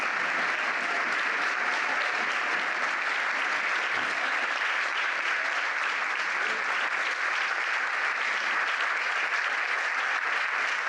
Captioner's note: applause